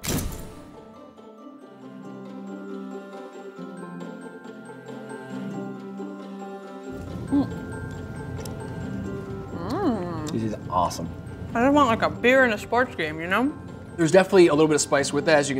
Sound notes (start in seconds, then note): 0.3 inspirational music; 9.5 yumming